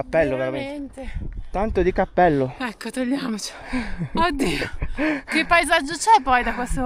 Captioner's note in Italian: risate